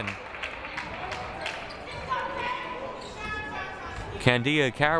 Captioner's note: crowd applauding